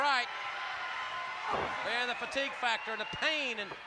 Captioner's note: applause